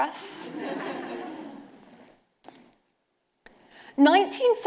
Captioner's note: audience laughing